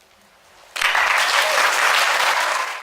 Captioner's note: audience applauds